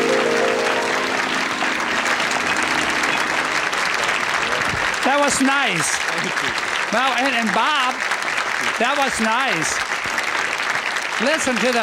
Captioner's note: applause